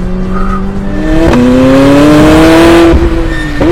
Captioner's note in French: Vrombissement du moteur